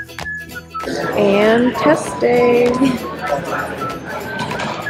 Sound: laugh

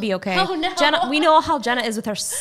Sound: laughing

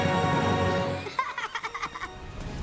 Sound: laughing

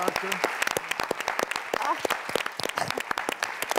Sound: clapping

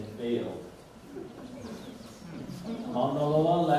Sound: audience laughs

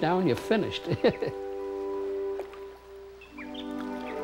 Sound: chuckles

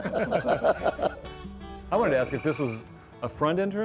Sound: laughs

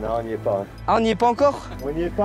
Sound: laugh in the distance

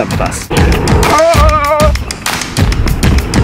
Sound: yelling

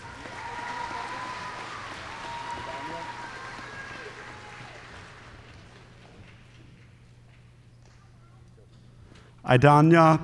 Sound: applause

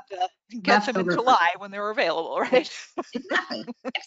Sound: laughs

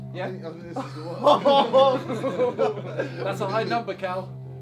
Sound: all laughing

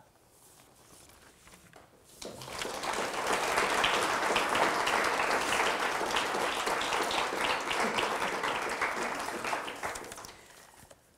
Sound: audience applause

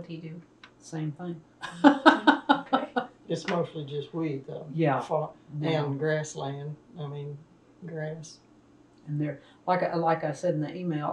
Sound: laughter

